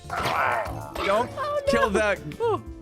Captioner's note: Pillagers dying